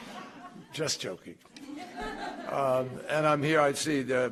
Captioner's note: laughter